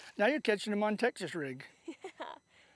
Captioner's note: laughter